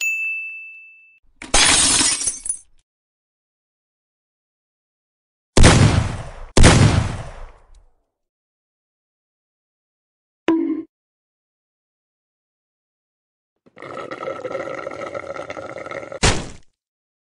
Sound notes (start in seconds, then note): 1.5 glass Shatter; 5.6 gun shot 1; 5.6 gun shot 2; 10.4 bOnK; 13.7 slurping Sounds; 16.2 pop